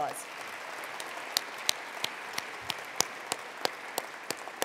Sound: attendees applauding

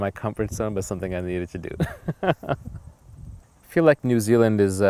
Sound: laughing

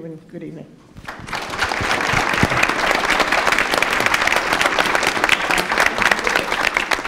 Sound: applause

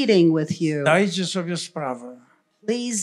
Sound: foreign language

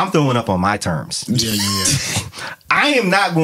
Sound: laughing

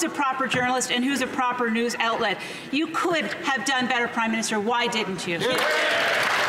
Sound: some Applause

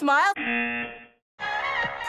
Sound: buzzer

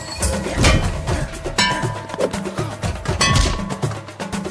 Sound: steel pipes clanking

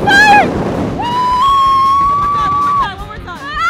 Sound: screaming

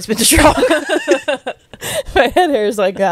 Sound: panel laughing

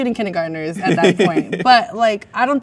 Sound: man laughs

